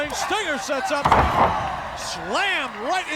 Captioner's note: Sting thuds